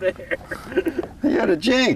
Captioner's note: laughter